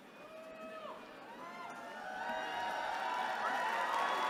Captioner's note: cheering